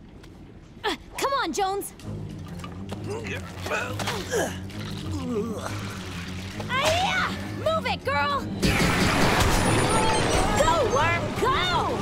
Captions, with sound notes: Come on Jones! [grunting] Hiya! Move it, girl! Go, worm! Go!